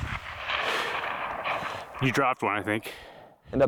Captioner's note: gunshot